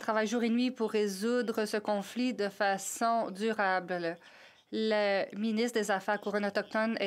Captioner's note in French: voix de l'interprète